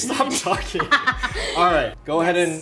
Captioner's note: Megan laughs